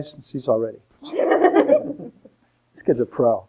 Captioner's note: laughter